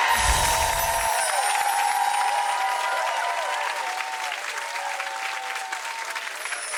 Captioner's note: air whooshes; twinkling chimes; twinkling chimes